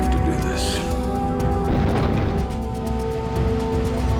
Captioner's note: shakes, clatters